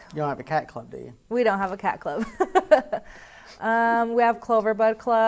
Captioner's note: laughs